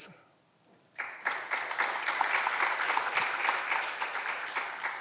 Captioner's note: clapping continues